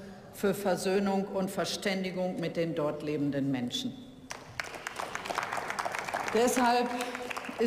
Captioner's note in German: Beifall